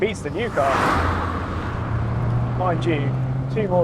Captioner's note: car roaring